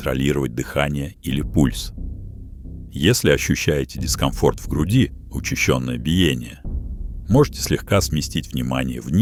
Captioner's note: rapid beating